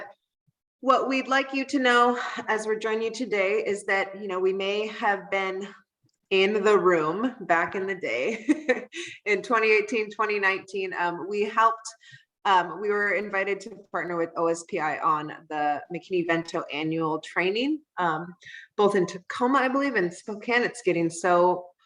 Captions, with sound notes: But what we'd like you to know as we joined you today is that, you know, we may have been in the room back in the day, [laughs]. In 2018, 2019, we helped... we were invited to partnered with OSPI on the McKinney-Vento Annual Training. Both in Tacoma, I believe, in Spokane, it's getting so...